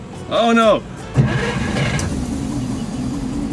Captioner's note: engine starting